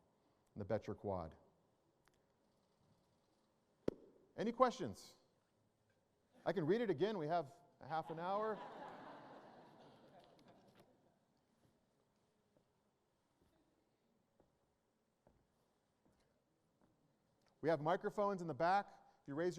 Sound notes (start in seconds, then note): 8.0 laughter